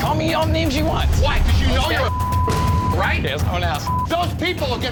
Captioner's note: beep